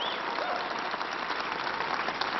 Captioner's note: applause